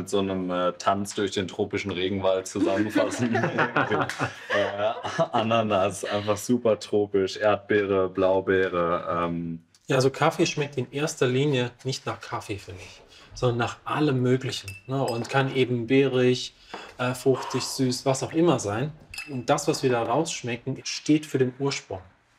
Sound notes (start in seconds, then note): 2.5 laughter